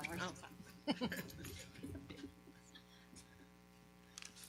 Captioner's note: laughing